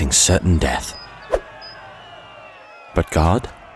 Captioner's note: people shouting